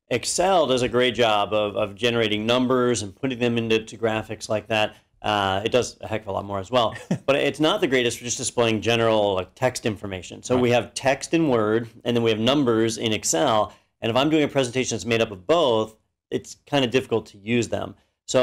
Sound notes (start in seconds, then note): 7.0 laugh